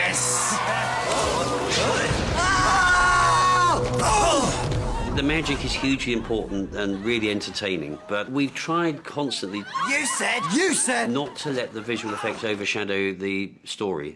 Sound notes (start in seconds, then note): 0.1 all cheer then gasp; 2.3 yell then grunt